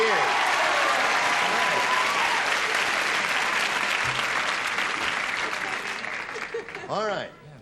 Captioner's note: cheering and applause